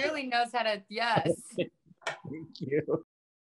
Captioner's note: laughing